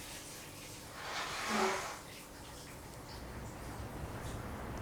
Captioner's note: blows raspberry